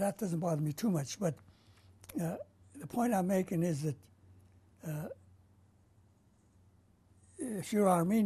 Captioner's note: pauses for 3 seconds